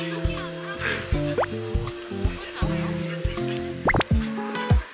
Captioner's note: munch munch